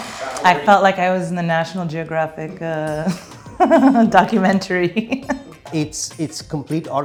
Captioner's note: laughing